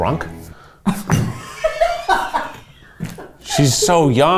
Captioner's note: producers laughing